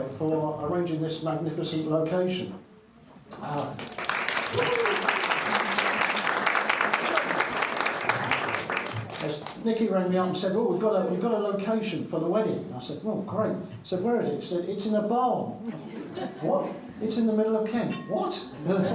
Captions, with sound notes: for arranging this magnificent location. (crowd applauding) Nikki ran me up and said, "Oh, we've got a location for the wedding." I said, "Oh, great." Said, "Where is it?" Said, "It's in a barn." What? "It's in the middle of Kent." What?